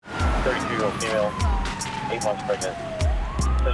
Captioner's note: siren blares